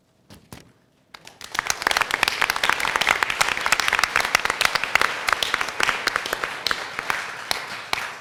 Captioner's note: applause